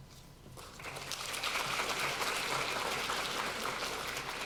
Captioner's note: applause